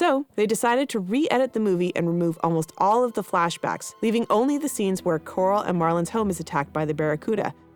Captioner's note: none